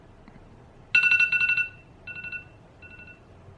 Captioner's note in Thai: เสียงนาฬิกาปลุก